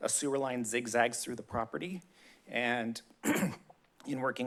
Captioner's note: clears throat